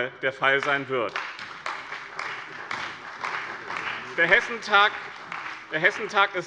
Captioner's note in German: Beifall bei dem BÜNDNIS 90/DIE GRÜNEN und der CDU